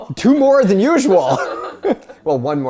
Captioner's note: laughs